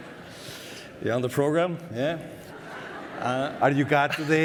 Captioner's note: audience laughter